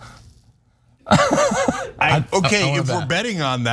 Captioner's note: laugh